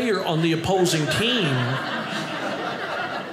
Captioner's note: audience laughing